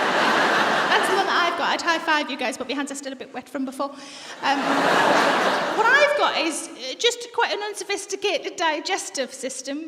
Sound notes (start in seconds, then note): 4.4 laughter